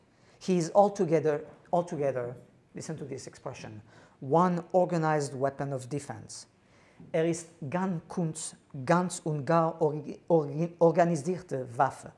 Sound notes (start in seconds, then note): 7.0 non-english speech